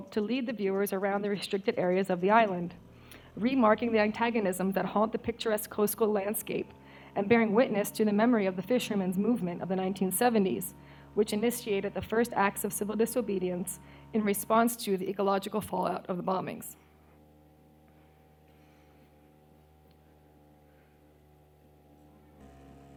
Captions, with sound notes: to lead the viewers around restricted areas of the island. Remarking the antagonism that haunt the picturesque coastal landscape and bearing witness to the memory of the fisherman's movement of the 1970's which initiated the first acts of civil disobedience in response to the ecological fallout of the bombings. (outboard engine noise)